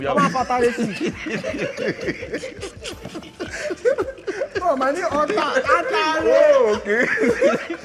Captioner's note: everyone laughs